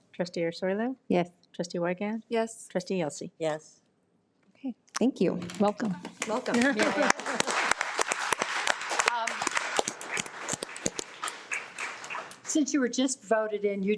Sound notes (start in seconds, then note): 6.2 audience applauds